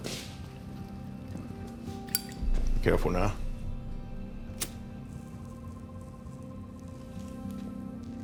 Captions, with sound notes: - Careful now. (lighter flickers)